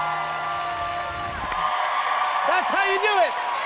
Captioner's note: cheers and applause